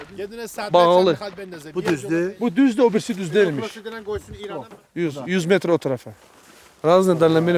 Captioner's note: talk on Persian language